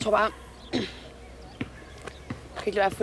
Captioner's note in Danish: rømmer sig